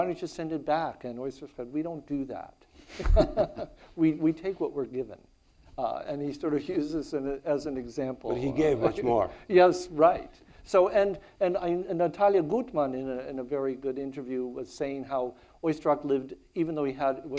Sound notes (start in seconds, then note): 2.8 laugh; 7.8 chuckles